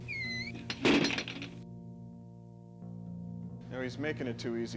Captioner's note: door slams